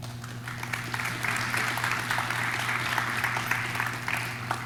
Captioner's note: audience claps